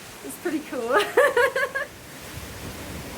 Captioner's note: laughing